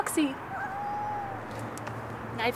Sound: cat meowing

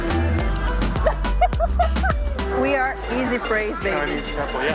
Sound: laughs

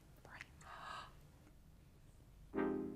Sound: Jane gasps

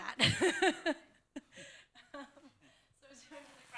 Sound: laughter

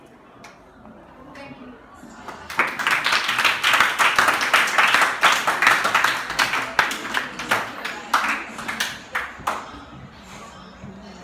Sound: clapping Hands

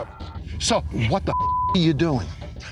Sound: beep

